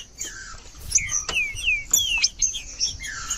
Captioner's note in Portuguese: trinca ferro cantando